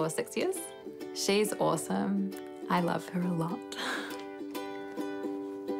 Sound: chuckles

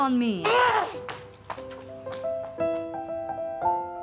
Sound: Lily groans

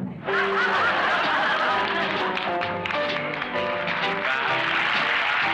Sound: audience applauds

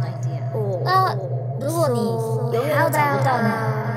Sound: speaking in Mandarin

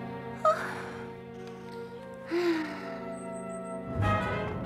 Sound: sighing

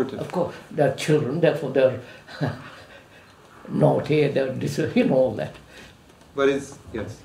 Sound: laughs

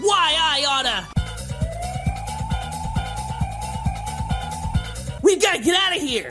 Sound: sirens blaring

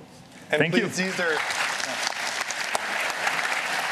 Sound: applause

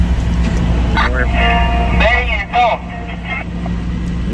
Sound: radio operator interference

